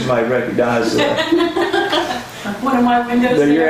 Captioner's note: laughs